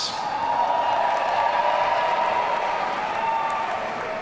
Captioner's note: audience cheering